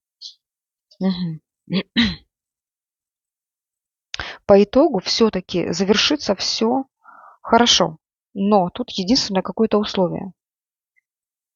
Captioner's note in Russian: откашливается